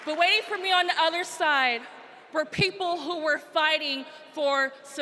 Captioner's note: applause